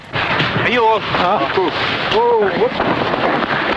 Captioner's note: non-english speech